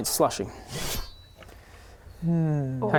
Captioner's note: shing!